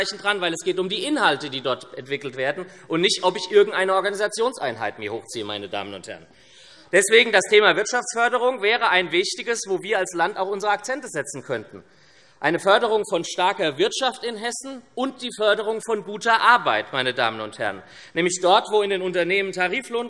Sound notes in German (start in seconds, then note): none